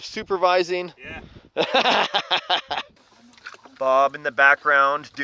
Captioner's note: laughing